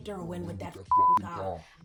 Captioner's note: beep